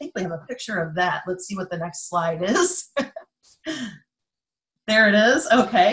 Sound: laughing

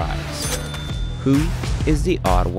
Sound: cash register rings

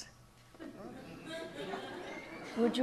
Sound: audience laughs

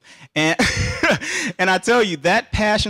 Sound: laughing

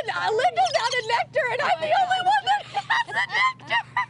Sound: laughter

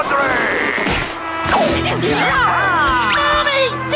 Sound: grunting

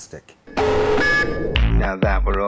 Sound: feedback

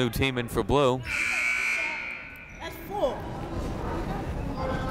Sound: buzzer sounding

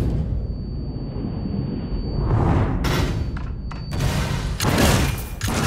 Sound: high frequency ringing; guns firing

